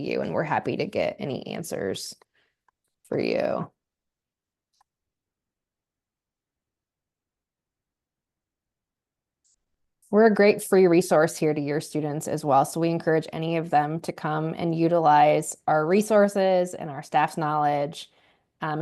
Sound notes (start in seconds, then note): 5.4 silence